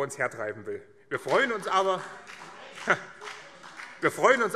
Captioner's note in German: Beifall BÜNDNIS 90/DIE GRÜNEN